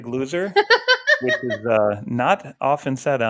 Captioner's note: laughing